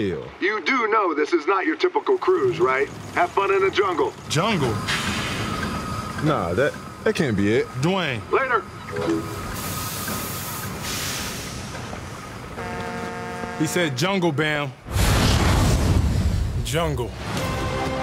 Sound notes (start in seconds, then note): 14.8 fire